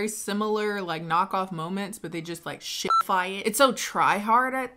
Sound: beep

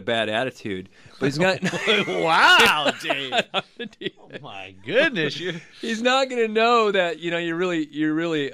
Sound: both laugh

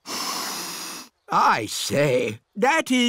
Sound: sniffs

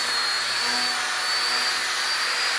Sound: machine noise

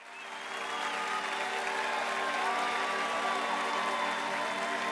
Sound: crowd cheering and applauding

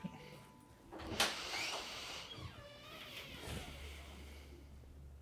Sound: door closing

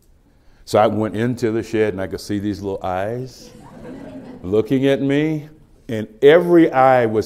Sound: laughter

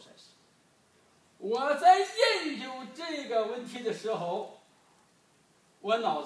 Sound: speaking foreign language

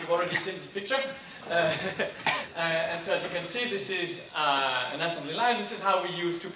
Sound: chuckles

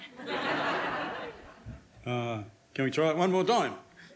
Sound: audience laughs

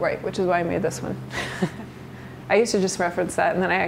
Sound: chuckles

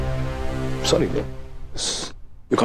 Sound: hisses

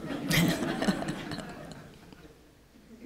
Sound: laughter

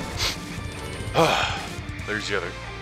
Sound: sigh of relief

